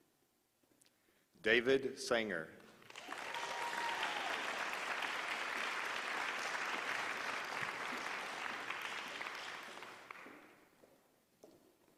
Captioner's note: applause